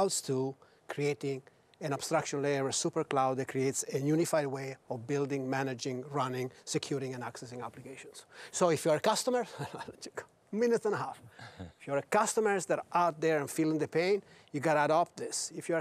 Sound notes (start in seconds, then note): 9.5 laughs; 11.5 hosts chuckle